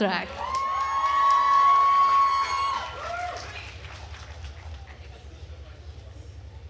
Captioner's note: attendees cheering and applauding